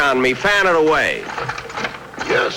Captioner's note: apparatus Creaking